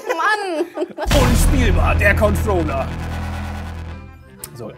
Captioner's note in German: Dröhnen